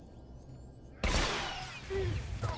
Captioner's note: gun firing